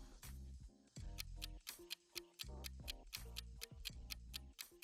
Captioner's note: timer ticking